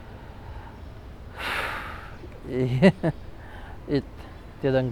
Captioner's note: sigh; nervous laugh